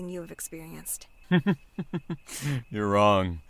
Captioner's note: chuckles